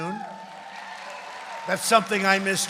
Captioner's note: applause